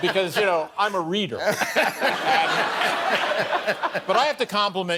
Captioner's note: laughter